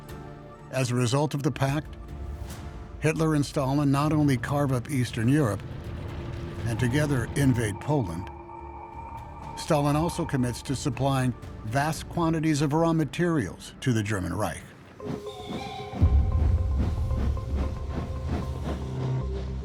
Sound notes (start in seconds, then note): 15.1 train whistle blowing; 17.2 suspenseful music